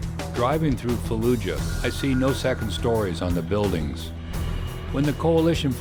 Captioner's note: voiceover